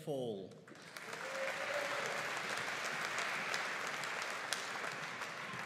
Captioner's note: audience cheering and applauding